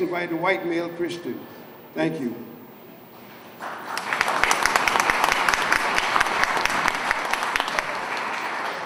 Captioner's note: applause